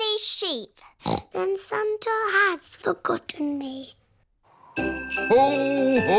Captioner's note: snorts